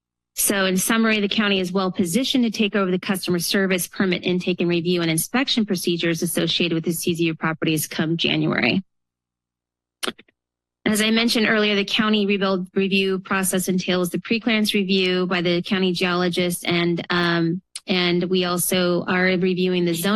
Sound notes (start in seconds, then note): 10.0 pause